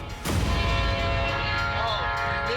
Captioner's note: train horn blowing